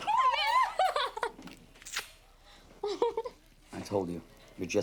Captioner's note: laughs